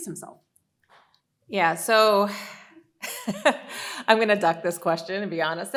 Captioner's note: laughs